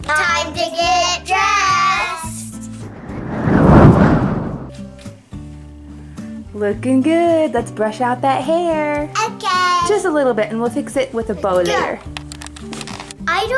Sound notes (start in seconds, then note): 2.6 wind rushing